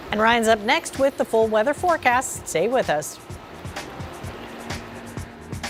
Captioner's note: sound of vacuum